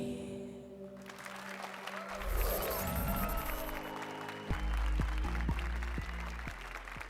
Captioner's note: applause and cheers